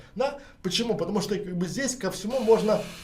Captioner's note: mechanical sound